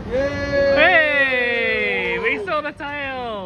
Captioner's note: observers cheering